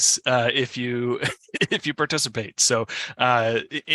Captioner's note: laughs